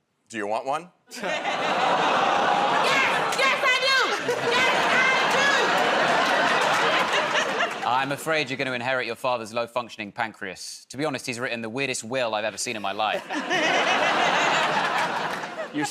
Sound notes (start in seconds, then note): 1.2 audience "Oh"s; 13.1 laughter